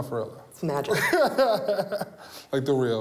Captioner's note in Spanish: risas